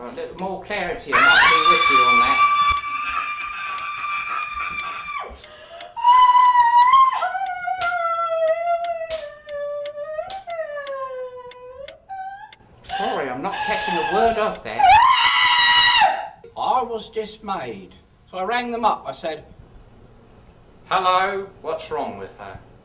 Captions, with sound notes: There's more clarity than I'll be with you on that. (screaming) (clicking) Sorry, I'm not catching a word up there. (screaming) I was dismayed, so I rang them up, I said. Hello, what's wrong with her?